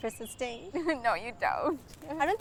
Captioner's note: laughs